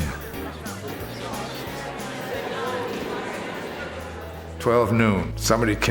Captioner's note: bar patrons chattering